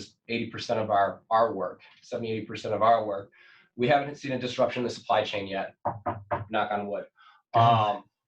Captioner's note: knocks on desk